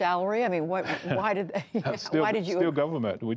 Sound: laughter

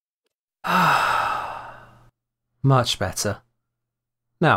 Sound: sigh of relief

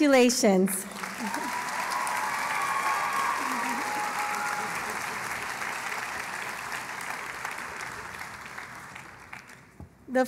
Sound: cheering and Applause

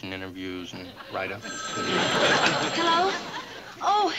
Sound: phone rings

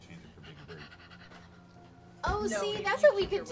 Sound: excited heavy breathing

